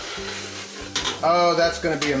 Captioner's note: pizza sizzles